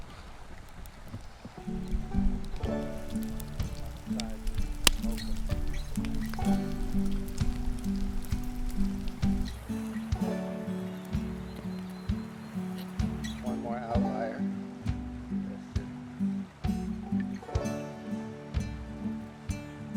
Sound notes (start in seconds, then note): 2.2 fire crackling; 2.2 slow guitar music